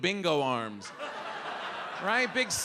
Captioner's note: audience laughs